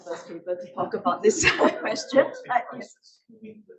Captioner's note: laughing